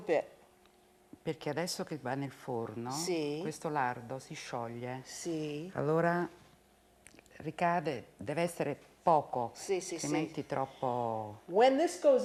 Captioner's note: speaking Italian